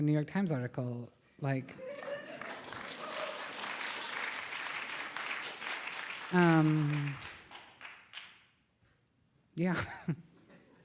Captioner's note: applause